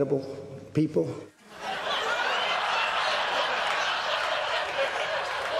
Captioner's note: laughter